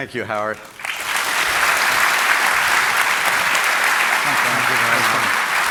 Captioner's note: audience applauding